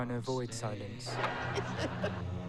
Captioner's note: TV laughter